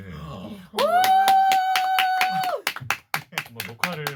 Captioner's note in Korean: 박수